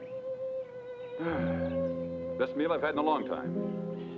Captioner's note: sighs